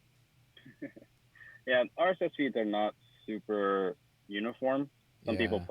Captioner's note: laughs